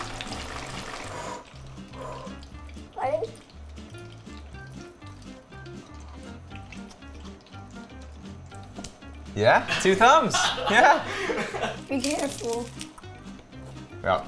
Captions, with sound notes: (blows) - Ready? - Yeah? Two thumbs! (laughter) - Be careful. (crunch)